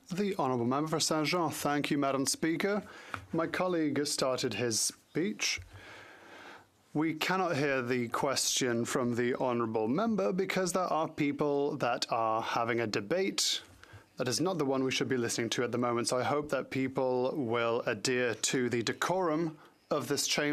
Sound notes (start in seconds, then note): 6.4 speaking French